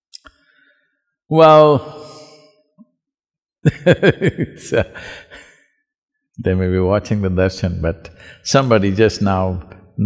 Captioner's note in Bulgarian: Смее се